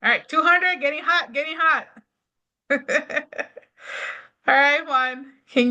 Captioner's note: laughs